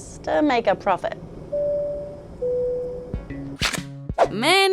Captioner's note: plane announcement beeps